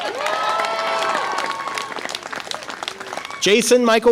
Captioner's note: audience applause and cheer